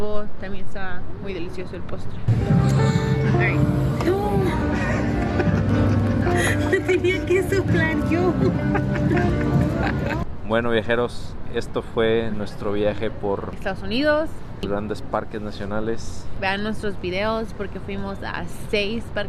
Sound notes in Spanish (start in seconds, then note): 8.2 risas